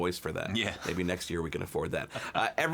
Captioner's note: chuckles